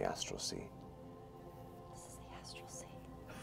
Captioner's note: whispering